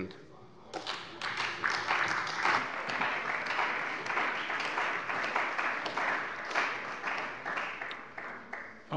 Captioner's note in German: Beifall bei der CDU und bei Abgeordneten des BÜNDNISSES 90/DIE GRÜNEN